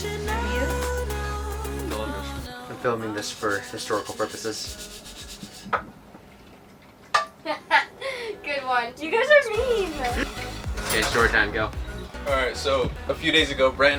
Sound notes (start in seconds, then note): 7.4 laughs